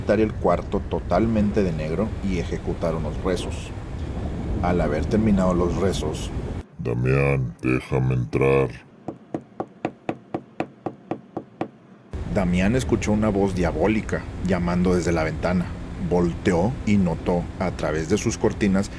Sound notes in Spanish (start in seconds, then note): 6.4 Con voz grave; 9.0 Sonido de alguien tocando pidiendo permiso para entrar